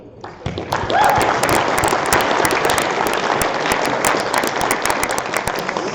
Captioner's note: applause